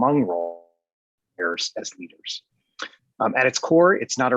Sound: distorted audio

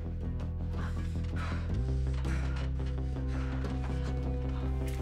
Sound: Dennis panting

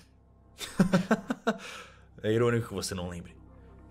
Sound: laugh

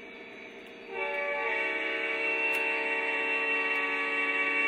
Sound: train horn

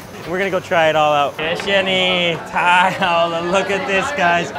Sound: speaks in foreign language

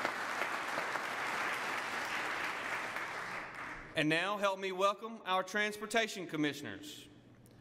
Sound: applause

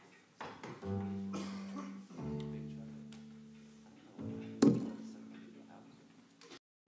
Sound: background Chatter

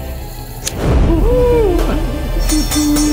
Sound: flame ignites; spatula tapping

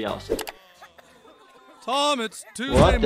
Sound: computer mouse clicks; people moaning and coughing

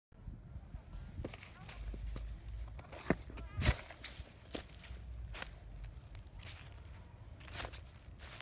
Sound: footsteps rustling in the woods

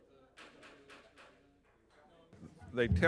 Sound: gavel tapping faintly

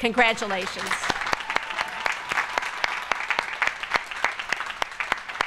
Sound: applause

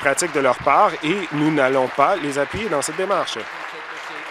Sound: applause

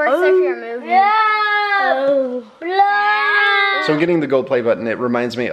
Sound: animated monster sounds

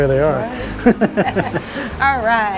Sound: both laugh

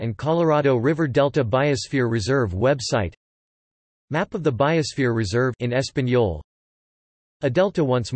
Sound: in español

